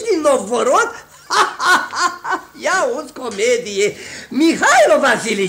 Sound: laughs

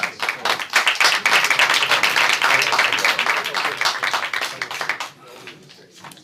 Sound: applause

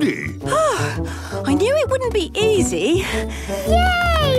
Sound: panting

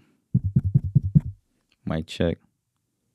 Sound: microphone rattling

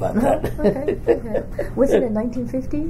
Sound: laughs

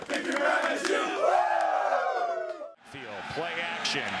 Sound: cheering

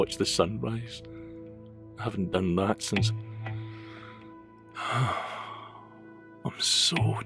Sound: sigh

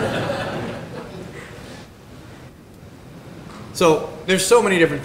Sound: laughter

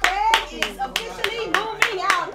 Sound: clapping

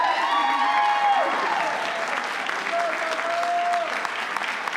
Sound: audience applauding

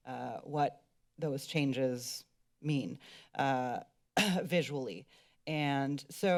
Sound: clears throat

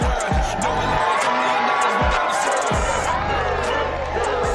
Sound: crowd cheering

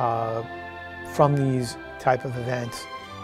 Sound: none

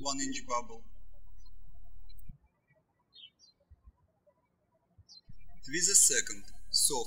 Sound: birds chirping

